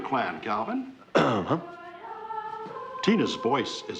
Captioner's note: clears throat